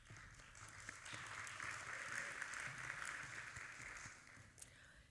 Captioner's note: audience applauding